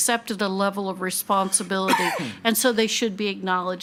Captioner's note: attendee coughing